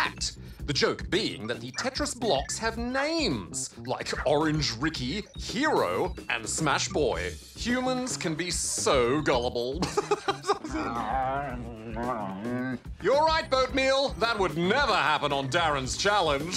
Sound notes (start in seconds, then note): 9.8 laughs; 10.9 growls